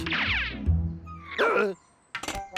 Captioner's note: gasps